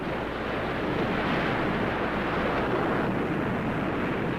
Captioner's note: waves crashing